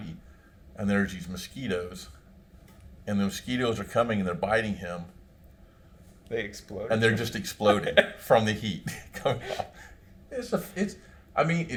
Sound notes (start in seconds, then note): 8.8 laughs